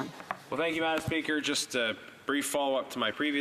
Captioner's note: speaking in French